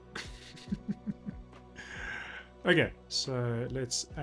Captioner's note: laughs